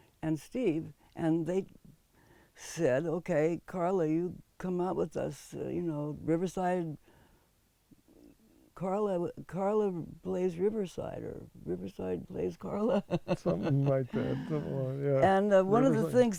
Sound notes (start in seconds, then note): 12.8 laughs